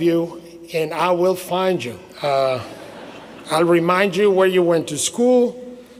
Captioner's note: laughter